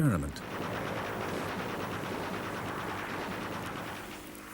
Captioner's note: plane rattles; gun bangs